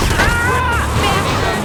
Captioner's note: screaming